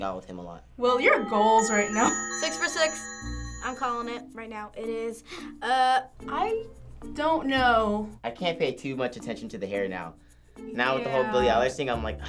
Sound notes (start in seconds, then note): 5.3 gasps